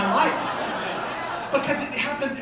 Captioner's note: laughter